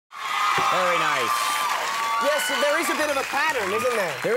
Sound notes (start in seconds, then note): 0.1 crowd cheering